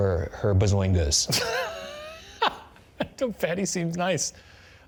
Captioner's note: laughing